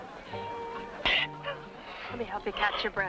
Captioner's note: coughing